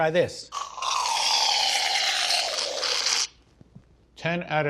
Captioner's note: nozzle hissing